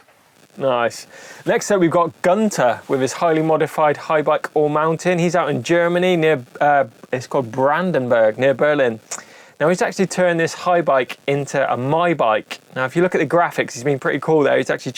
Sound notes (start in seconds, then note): none